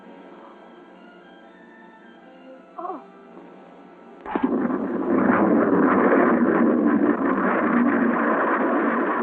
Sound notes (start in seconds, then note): 4.2 spaceship rumbling